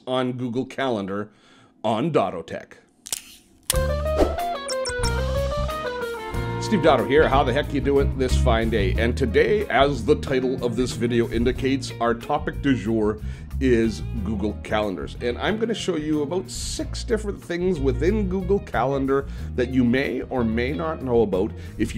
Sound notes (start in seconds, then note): 3.0 snapping; 3.8 funky guitar music